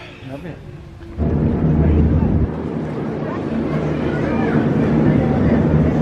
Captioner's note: boat pulling out and sailing off